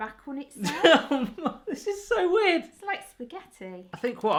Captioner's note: laughing